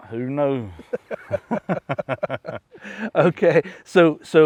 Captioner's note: laughing